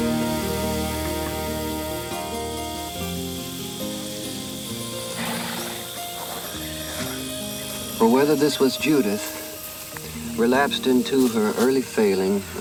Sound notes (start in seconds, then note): 3.0 cicadas chirp; 5.0 horse snorts